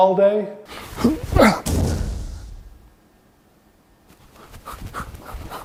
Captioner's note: explosive bangs